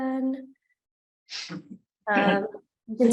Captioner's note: participant chuckles